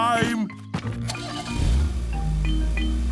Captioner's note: engine starting